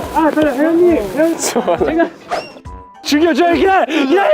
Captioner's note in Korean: Чимээгүй инээх